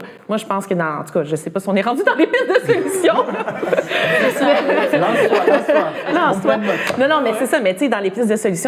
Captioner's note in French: rires